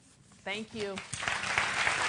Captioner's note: applause